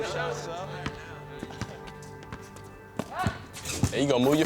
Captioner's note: ball thunking